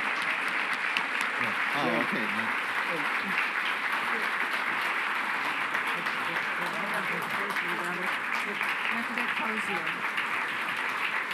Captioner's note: applause